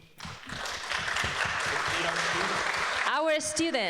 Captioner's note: people clapping